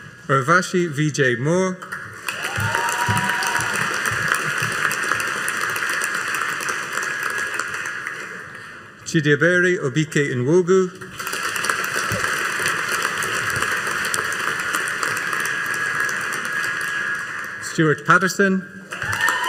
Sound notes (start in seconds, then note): 2.2 audience cheering and applauding; 11.1 audience applauding; 18.9 audience cheering and applauding